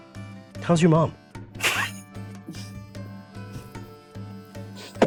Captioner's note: chuckling